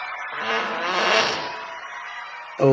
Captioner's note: juicy-sounding fart